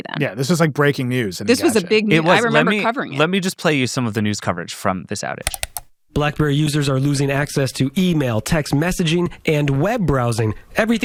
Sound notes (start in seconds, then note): 5.4 computer mouse clicking